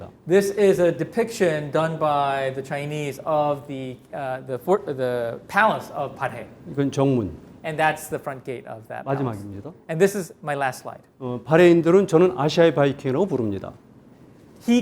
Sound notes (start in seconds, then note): 0.0 speaking in Korean; 6.9 speaking in Korean; 9.4 speaking in Korean; 11.6 speaking in Korean